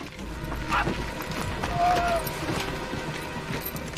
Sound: Kafi yells

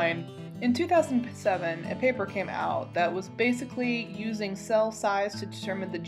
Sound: serious scientist voice

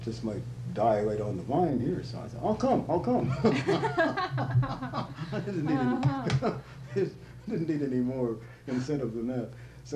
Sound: laughter

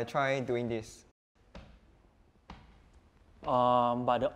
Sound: foot tapping

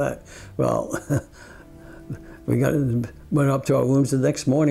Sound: chuckles

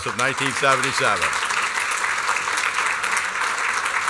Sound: applause

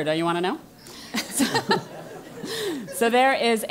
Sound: laugh

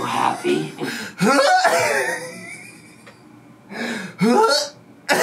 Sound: gags and laughs

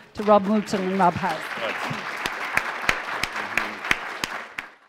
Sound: applause

